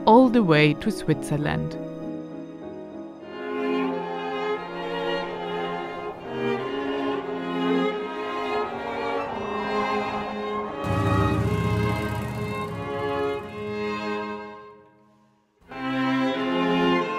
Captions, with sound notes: all the way to Switzerland. (orchestral music) (heavy wind blowing)